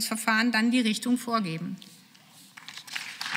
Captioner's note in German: Beifall